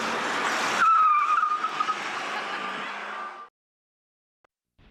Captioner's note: tires screeching